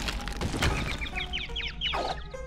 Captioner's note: chirping